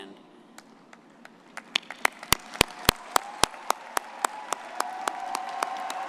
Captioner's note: everyone applauding and cheering